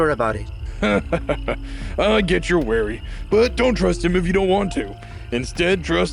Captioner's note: chuckles